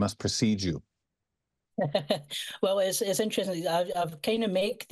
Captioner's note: laughs